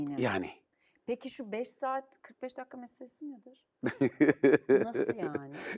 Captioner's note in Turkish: kahkaha